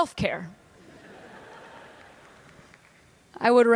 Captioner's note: laughter